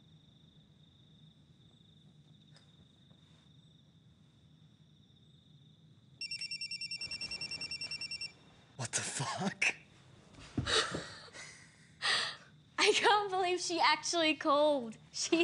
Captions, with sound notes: (phone ringing) - What the fuck? (laughter) - I can't believe she actually called.